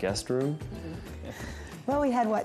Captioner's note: laughing